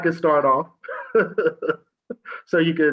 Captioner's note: laughs